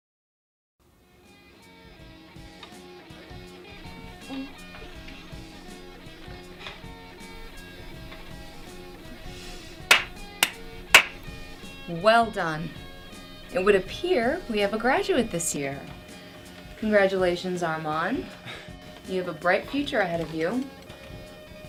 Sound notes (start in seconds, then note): 9.9 clapping